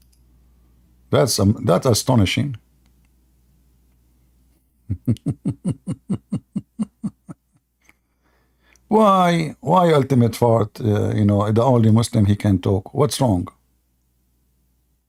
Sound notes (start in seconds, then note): 4.8 Ketawa